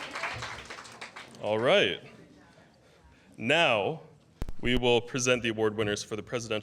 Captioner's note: applause